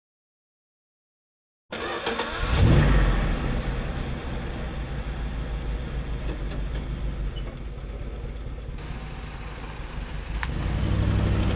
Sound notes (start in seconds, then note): 2.5 car starts